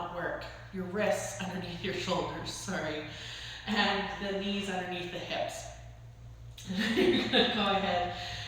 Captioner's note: laughter